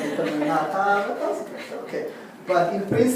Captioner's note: laugh